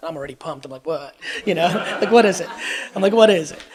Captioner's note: audience laughs